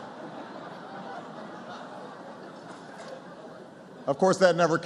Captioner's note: laughter